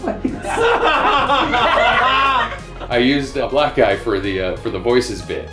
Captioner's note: laughter